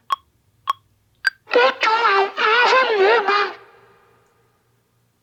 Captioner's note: distorted vocals